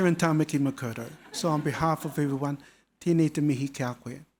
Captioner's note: audience laughing; speaking foreign language